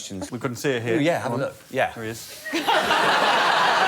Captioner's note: laughter